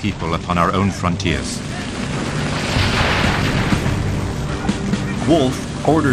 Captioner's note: tree crashes down